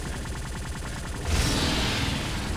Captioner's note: explosion